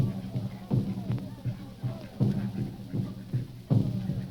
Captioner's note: people chattering